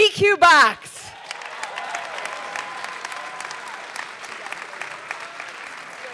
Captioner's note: audience clapping and cheering